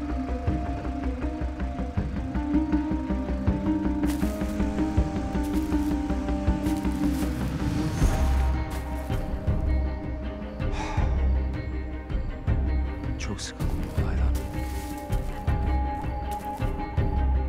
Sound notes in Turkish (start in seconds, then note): 0.3 Müzik - Gerilim; 10.6 Nefes sesi; 16.2 Müzik - Gerilim